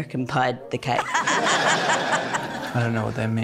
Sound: laughter

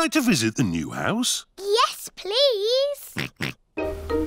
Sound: oinks

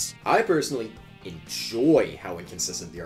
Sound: none

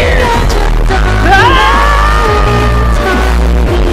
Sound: Hyrulian shrieking

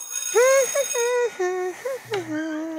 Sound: humming

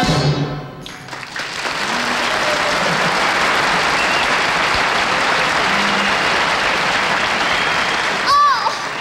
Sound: audience applauding

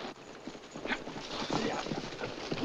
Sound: all urging horses

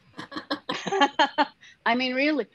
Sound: chuckles softly

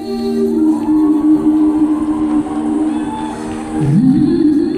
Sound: audience cheers in the house

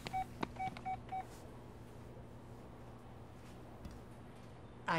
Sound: cash register beeping

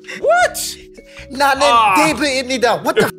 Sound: in Korean

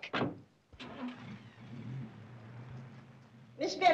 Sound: car drives off

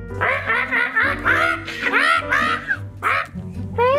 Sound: bird squawking

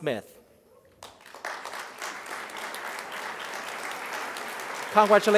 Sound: crowd applause

